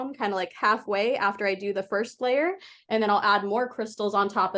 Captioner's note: none